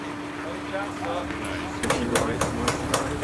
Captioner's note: people chattering